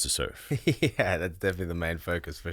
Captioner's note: laughs